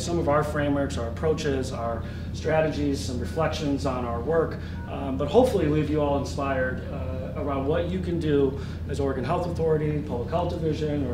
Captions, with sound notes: It's a metaphor for how I approach my work. [ Phone ringing ]